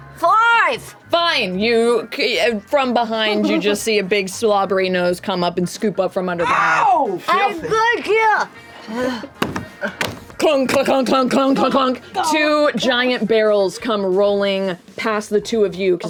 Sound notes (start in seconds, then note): 9.3 clunking